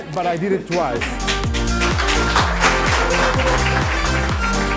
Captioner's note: applause